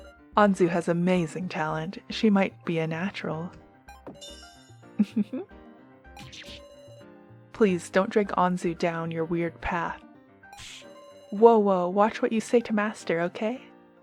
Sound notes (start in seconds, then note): 5.0 giggles